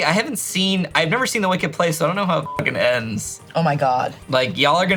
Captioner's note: beep